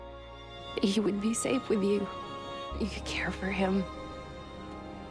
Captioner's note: voiceover